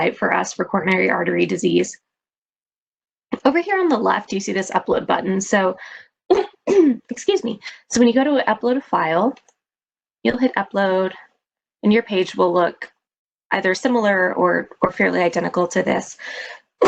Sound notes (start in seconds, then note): 6.3 coughs